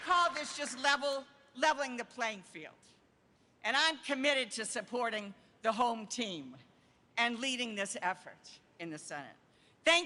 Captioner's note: applause